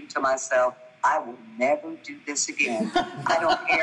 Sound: group laughing

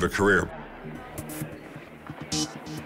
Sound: people chattering; intense techno music

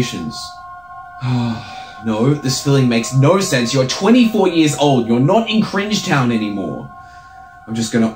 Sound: sigh

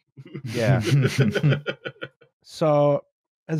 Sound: laughter

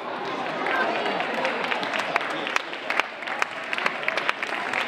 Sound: audience applauding

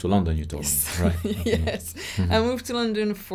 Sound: laughing

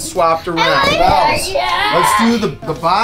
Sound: yelling

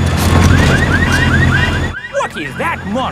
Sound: car alarms blaring

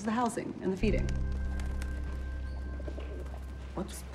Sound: wings flapping

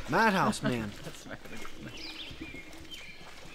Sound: laughs

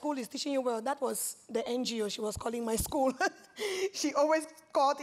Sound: laughs

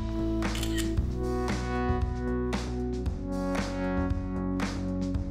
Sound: camera shutter clicks

